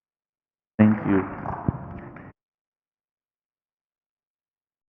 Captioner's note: crowd applauding